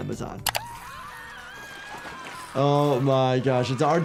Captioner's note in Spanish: gente gritando